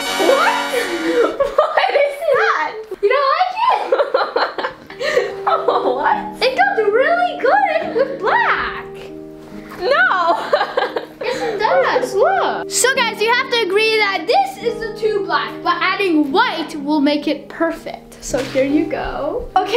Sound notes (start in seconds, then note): 0.1 laughing; 9.8 laughing